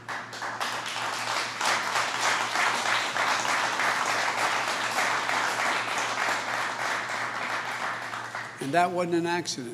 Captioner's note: applause